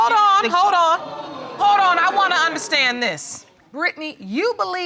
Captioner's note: audience gasp